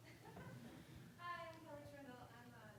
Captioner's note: laughing